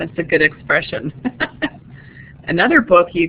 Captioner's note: chuckles